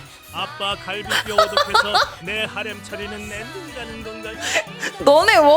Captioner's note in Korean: 웃음